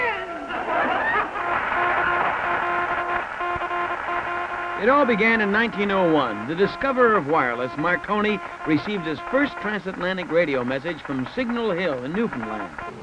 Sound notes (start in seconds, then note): 0.6 laughter; 3.9 morse code beeps